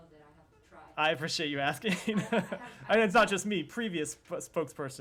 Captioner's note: laughter